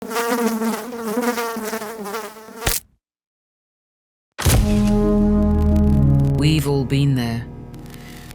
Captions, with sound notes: (fly buzzing) (fly splatting) (ominous music) We’ve all been there.